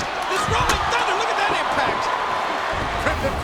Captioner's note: crowd groaning